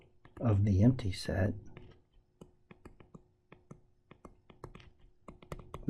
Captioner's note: tapping Sounds